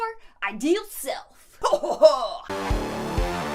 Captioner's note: laughs evilly; hardcore music